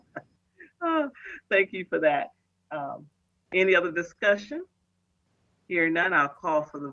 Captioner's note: laughing